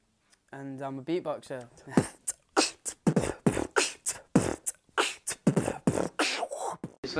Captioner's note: beatboxing